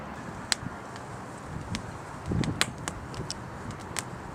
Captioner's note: crackling fire